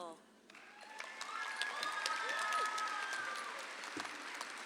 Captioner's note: audience applauds